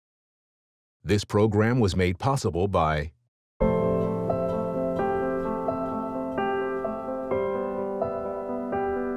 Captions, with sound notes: - [Voiceover] This program was made possible by.. (gentle serene music)